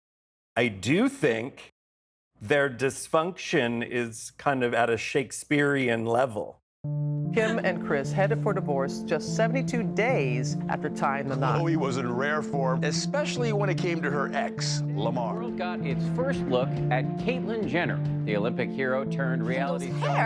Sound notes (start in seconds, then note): 6.5 soundbite of archived recording